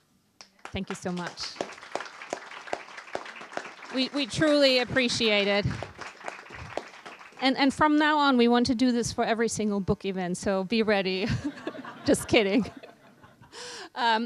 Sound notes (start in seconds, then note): 0.6 applause; 12.8 laughter